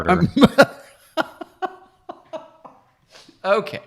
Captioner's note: laughs